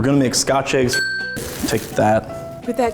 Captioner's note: bell dings